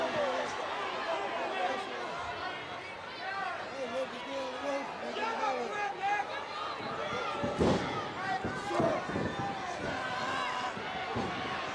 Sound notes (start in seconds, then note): 4.8 audience chattering